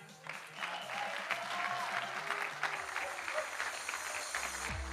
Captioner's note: audience applauding